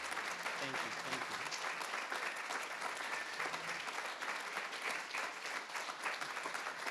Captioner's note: attendees applauding continues